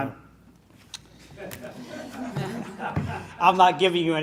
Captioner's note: laughing